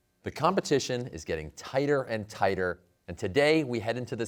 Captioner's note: none